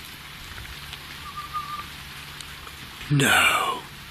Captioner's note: whistling